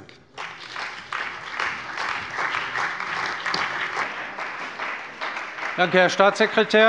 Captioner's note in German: Beifall bei der CDU und dem BÜNDNIS 90/DIE GRÜNEN